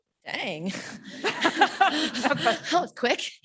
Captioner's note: laughing